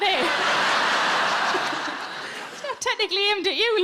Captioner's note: audience laughs